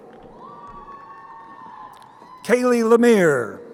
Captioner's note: crowd cheering